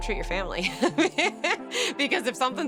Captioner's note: laughs